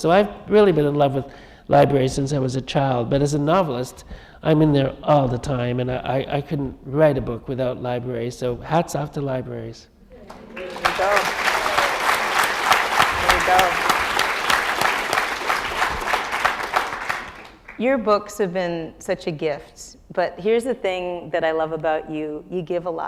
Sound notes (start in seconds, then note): 10.0 applause